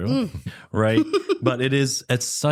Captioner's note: laughter